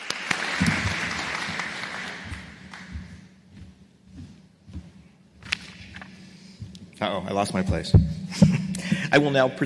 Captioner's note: applause